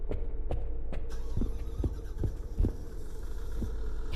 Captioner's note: generator starting up